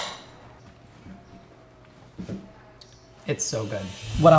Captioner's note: fork clacking; chewing